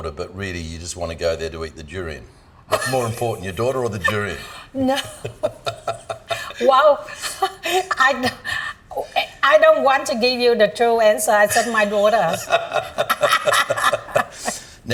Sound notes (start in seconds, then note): 4.0 laughing; 7.5 chuckling; 11.5 laughs